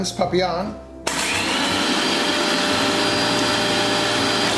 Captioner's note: grater motor